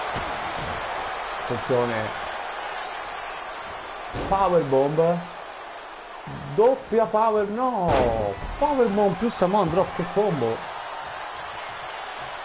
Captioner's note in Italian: Applauso